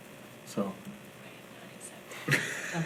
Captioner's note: whispering